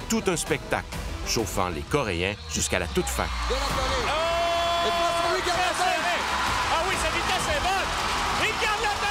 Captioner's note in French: cris de la foule